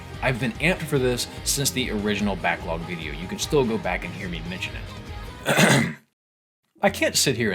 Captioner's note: ahem